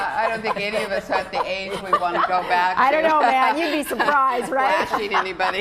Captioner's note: laughter